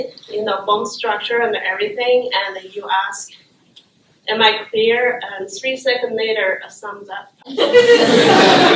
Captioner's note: laughter